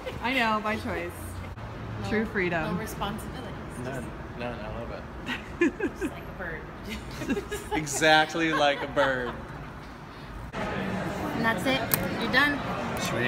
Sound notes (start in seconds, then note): 5.2 laughter